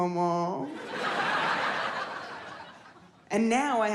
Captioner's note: audience laughs